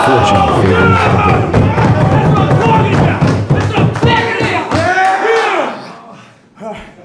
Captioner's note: audience cheering